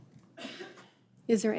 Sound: attendee coughing

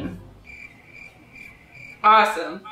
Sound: crickets chirp

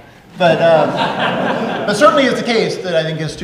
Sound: audience laughing

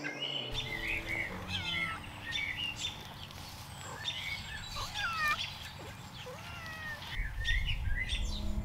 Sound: more meowing

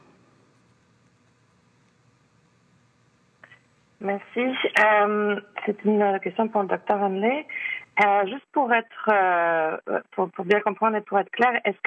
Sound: speaking French

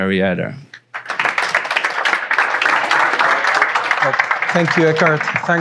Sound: audience clapping

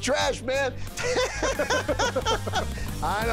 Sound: laughter

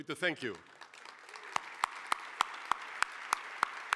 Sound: applause

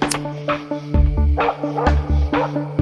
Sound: dog Barking

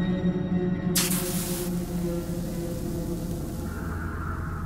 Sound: body sizzling

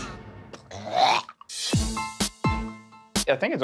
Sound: imitating puking

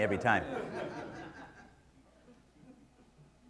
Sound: laughter

